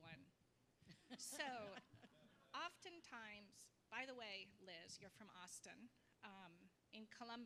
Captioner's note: laugh